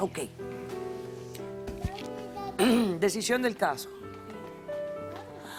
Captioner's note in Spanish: Carraspea